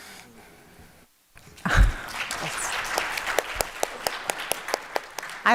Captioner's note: applause